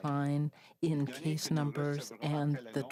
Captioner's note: speaking French